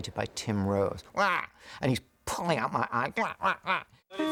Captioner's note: imitates Bird Cry